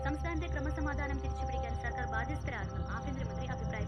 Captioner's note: TV news